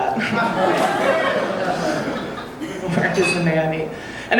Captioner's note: audience laughing